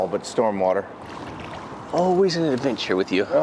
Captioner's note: water splashing